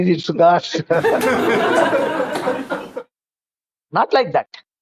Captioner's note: laughs